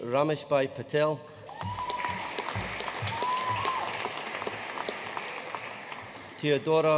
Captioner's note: audience cheering and applauding